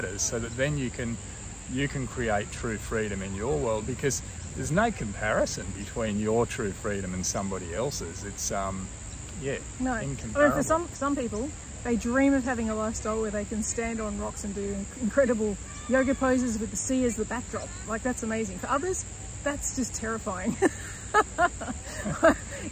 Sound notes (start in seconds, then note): 20.4 both laugh; 20.4 laughs